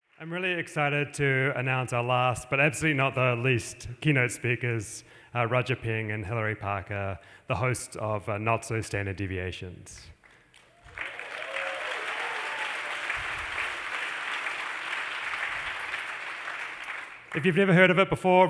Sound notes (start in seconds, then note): 10.2 applause